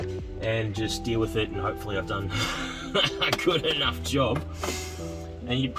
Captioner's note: nervous laugh